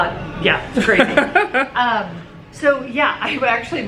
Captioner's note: laughs